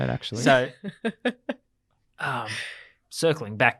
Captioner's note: laughs